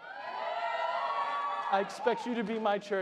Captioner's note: crowd cheering